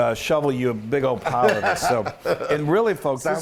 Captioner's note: laugh